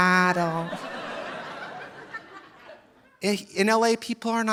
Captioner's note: audience laughing